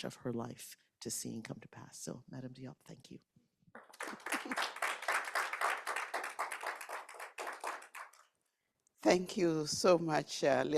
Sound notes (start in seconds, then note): 3.7 attendees clapping; 4.2 chuckles